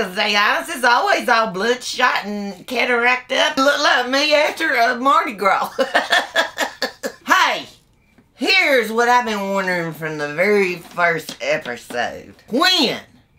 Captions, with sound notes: cause they eyes is all bloodshot and cataracted up. Look like me after Mardi Gras. (laughs) Hey! Here's what I been wondering' from the very first episode... When...